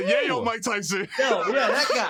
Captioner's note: laughs